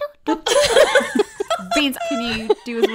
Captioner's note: laughing